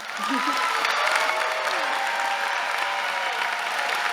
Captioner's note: audience cheering; laughs